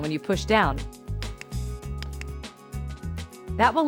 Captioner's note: clicking